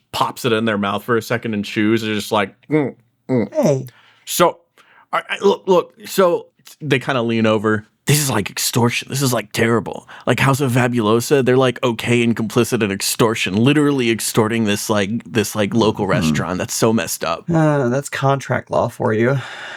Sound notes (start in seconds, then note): 3.2 eating